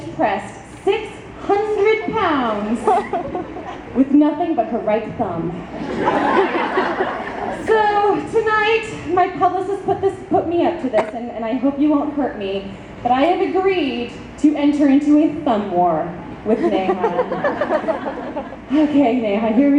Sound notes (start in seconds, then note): 5.8 audience laughs